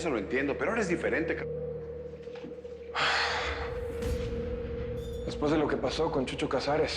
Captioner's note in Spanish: Suspiros